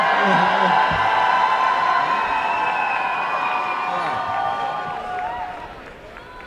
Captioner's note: cheering and applause